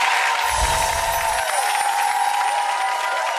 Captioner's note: applause